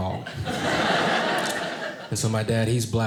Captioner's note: audience laughing